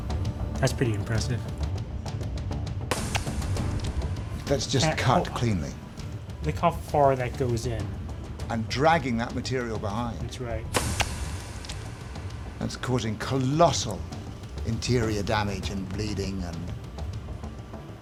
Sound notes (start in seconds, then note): 3.1 gelatin squelching; 11.2 gelatin squelching